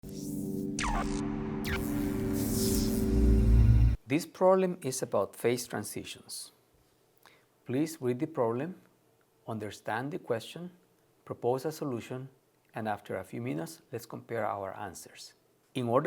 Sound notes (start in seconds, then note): 0.0 electronic whooshing